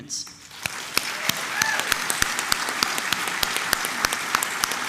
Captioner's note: applause